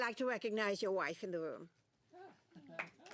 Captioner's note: applause